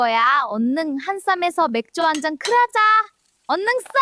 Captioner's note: clink